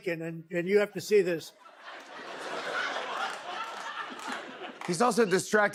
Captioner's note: laughter